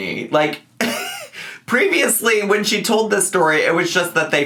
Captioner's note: chuckles